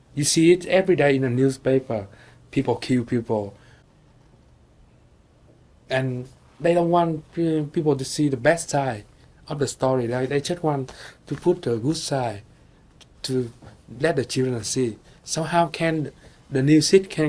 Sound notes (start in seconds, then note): none